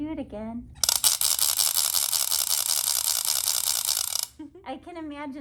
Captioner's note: noisemaker whirls